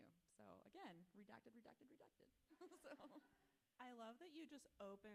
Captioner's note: laughs